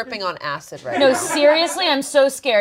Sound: laughter from offscreen

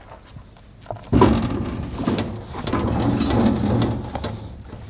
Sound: metal clanking

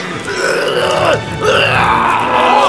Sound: strained grunting; pained gargling

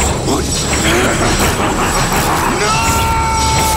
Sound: ghost rider laughing

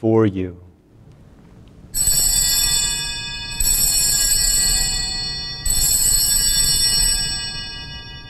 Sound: bells ringing

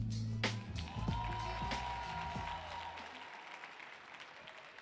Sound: audience cheering

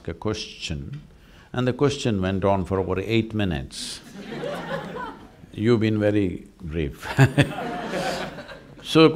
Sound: laughter; laughs

